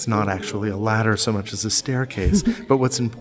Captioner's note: chuckles